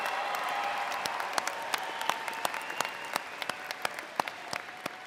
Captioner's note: graduates applaud